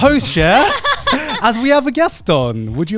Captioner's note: laughing